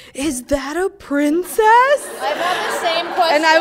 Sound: laughing

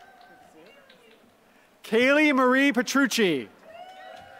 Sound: applause

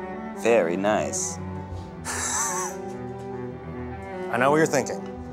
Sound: laughs

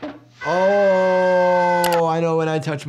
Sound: Tom screaming

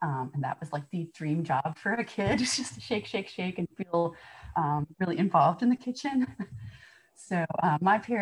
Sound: laughter

